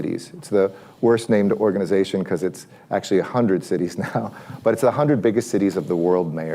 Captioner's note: laughs